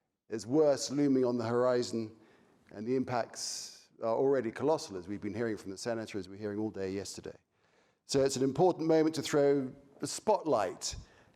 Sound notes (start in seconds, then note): none